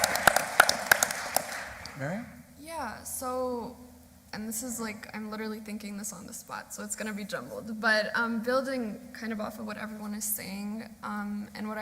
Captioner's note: applause